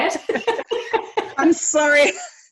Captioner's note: laughing